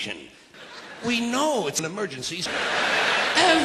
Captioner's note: audience laughs